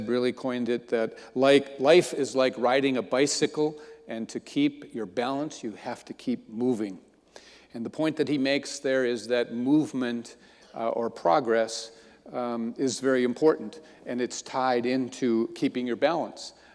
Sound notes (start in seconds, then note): none